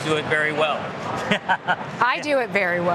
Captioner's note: laughter